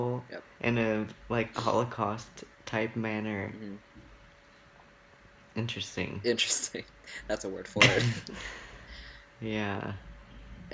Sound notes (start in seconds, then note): 5.7 sarcasm; 7.1 laughs